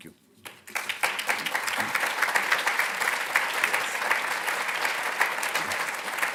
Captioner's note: applauding